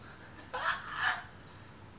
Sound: laughs

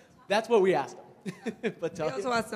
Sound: laughs

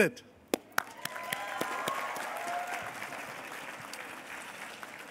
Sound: cheers and applause

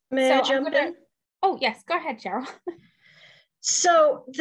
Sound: laughs

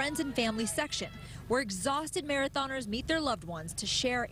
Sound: cheers and applause

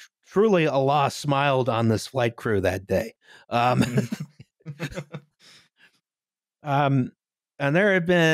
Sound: laughter

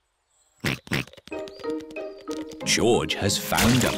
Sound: snorts

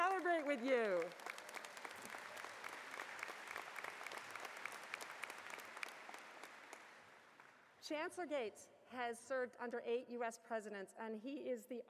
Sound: applause

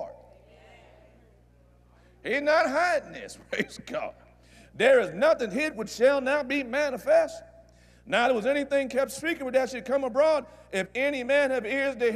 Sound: audience Agrees

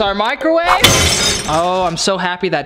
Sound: crashing

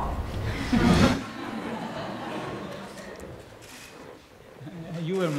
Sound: laughter

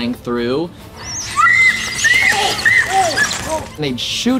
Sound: screaming

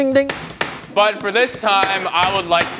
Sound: making sound affects of loud cooking utensils; meat pounder banging on the table

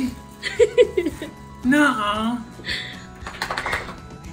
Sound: laughing

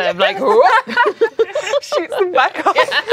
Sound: laughing

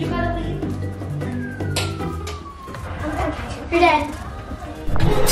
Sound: claw machine beeping

